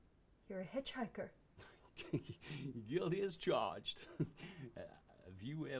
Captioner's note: snickers; chuckles